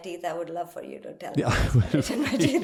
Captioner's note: laugh